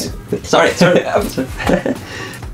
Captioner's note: laugh